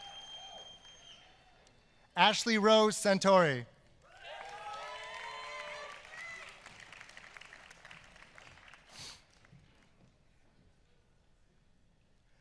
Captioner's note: applause